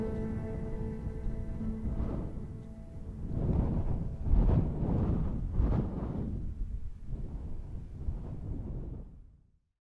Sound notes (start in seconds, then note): 2.1 wind lightly whistling